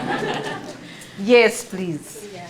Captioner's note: laughing